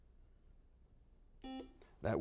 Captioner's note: beeps